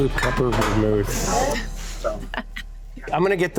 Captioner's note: chuckles